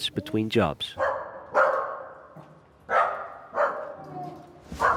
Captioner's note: dog barking